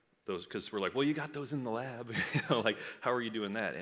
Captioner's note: laughs